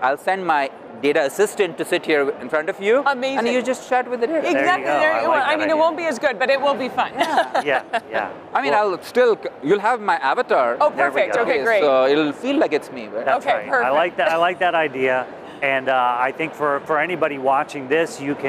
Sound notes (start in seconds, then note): 7.2 laughs